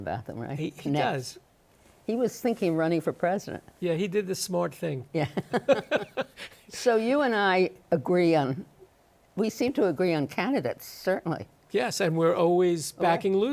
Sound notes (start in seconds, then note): 7.8 both laughing